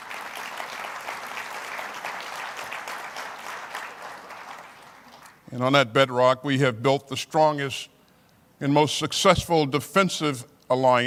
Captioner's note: applause